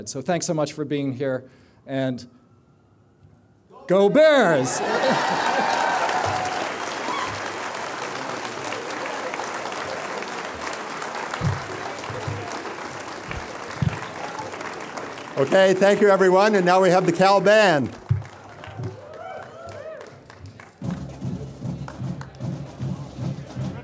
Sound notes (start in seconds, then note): 4.8 laughter; 5.6 applause; 20.3 celebratory tune